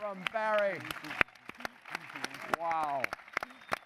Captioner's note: applause